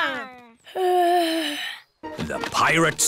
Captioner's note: yawns